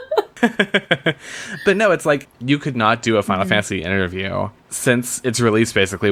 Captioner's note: laughs